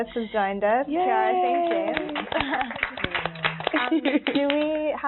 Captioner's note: applauding